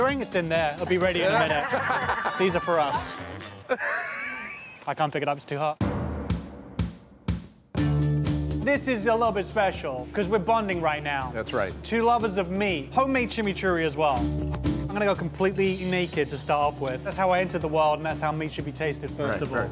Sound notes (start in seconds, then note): 3.6 laughs; 5.8 bass drum